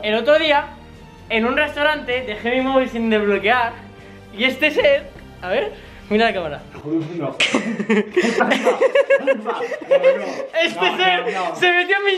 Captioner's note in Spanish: Risas